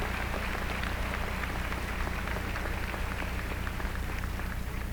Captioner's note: applause